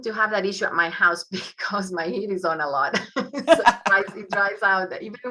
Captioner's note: laughs